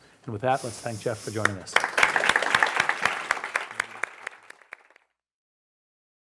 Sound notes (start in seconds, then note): 1.4 clapping